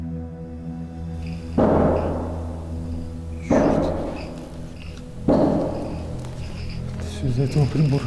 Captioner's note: strange knocking